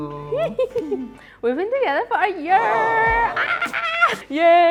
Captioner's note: squeals